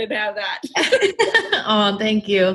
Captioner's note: both laughing